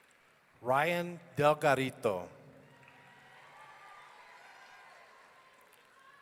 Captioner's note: audience cheering